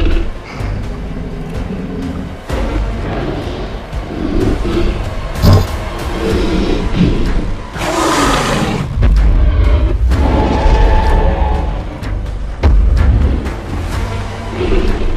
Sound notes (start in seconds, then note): 0.0 suspenseful music; 8.2 T-Rex roaring; 8.9 T-rex stomping sounds